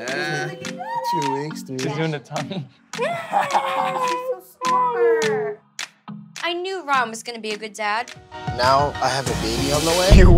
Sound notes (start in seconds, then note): 3.0 laughs